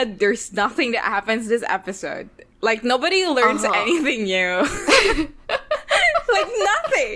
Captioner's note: both laughing